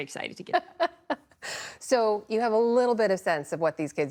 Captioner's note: laughter